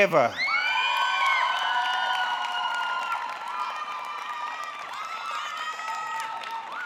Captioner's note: audience clapping; audience cheering